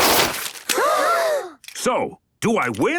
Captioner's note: all gasp